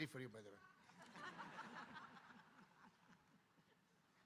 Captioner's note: audience laughing